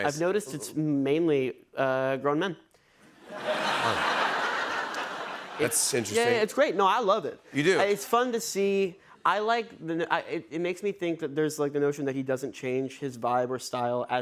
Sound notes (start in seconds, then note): 3.2 laughter